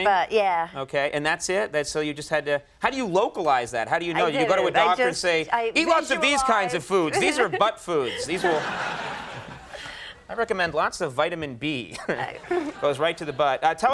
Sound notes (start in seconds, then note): 7.9 audience laughing